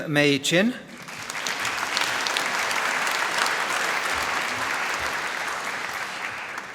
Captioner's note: applause